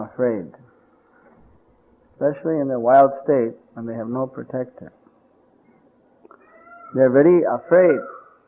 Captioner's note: peacock sounds